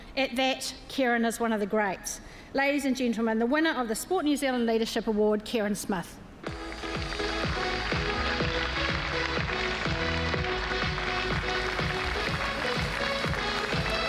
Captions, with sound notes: At that, Kereyn is one of the greats. Ladies and gentlemen, the winner of the Sport New Zealand Leadership Award, Kereyn Smith. (APPLAUSE) (UPBEAT ELECTRONIC MUSIC PLAYS)